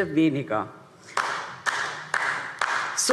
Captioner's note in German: Beifall DIE LINKE